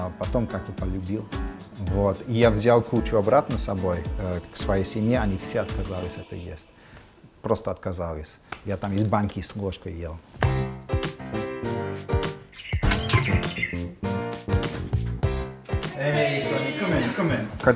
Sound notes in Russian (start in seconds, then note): 10.4 звучит фоновая музыка; 12.9 звучит звонок в дверь; 15.9 говорит на английском языке